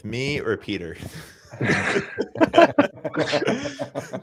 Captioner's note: laughter